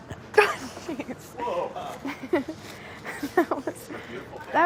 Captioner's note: laughing